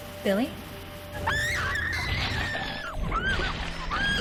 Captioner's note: screaming